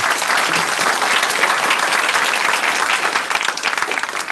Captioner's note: applause